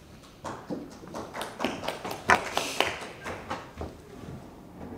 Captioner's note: audience applauding